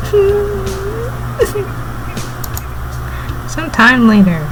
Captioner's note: crying.wav